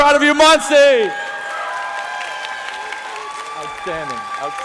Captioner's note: applause